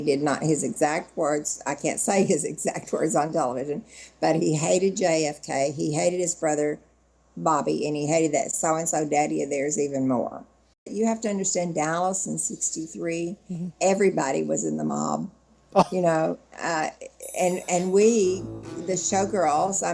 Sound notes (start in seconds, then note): 15.8 interviewer laughed